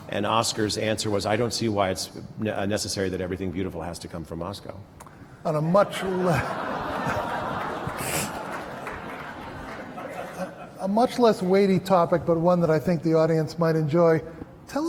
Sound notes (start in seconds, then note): 5.9 laughter